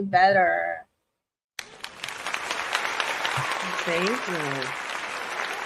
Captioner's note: audience applauding